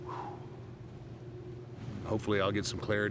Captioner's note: Undertaker sighs